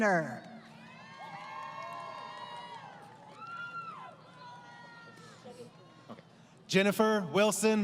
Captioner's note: crowd Cheering